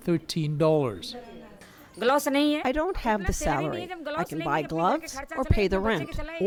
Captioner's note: through translator